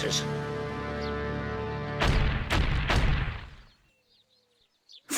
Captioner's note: heavy knocks